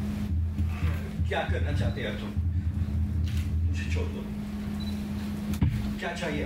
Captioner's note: speaks in foreign language